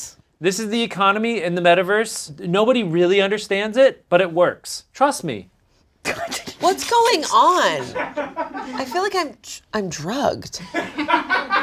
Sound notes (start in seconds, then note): 6.0 laughs